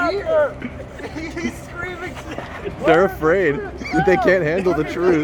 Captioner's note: laughing